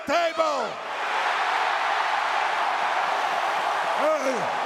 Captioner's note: crowd cheers